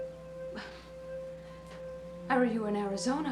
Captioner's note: Carolyn scoffs